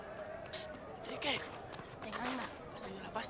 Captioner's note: berbicara bahasa spanyol